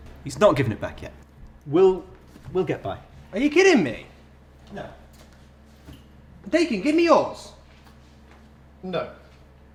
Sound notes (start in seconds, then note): 4.8 very quiet